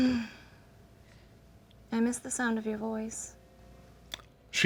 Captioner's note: sighs